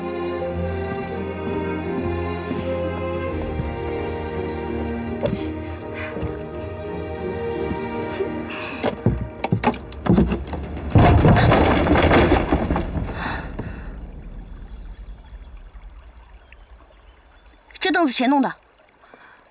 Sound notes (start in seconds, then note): 9.4 sound of crush; 9.6 sound of wobbling